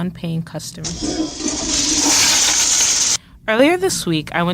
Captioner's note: toilet flushing